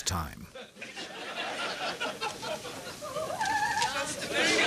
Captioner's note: audience laughing; operatic singing